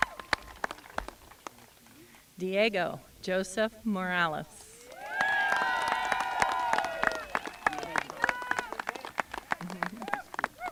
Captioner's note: applause